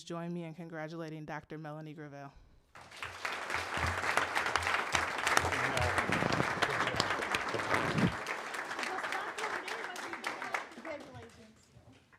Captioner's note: applause